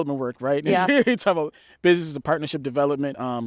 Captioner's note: laughs